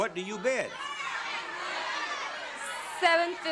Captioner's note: audience shouting